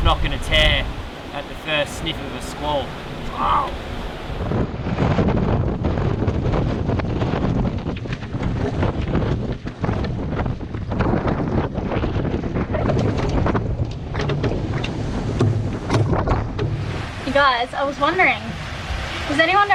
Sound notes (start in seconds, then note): 4.3 wind whipping